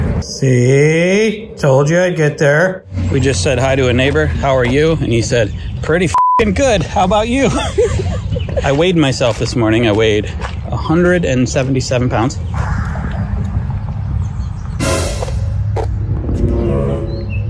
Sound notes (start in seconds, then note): 6.1 beep; 7.3 both laughing; 14.8 tense music